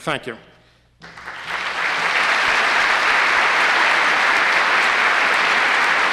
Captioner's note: applause